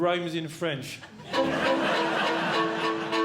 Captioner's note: audience Laughing